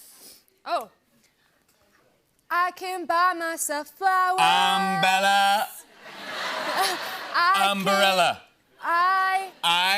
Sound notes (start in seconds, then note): 5.9 laughter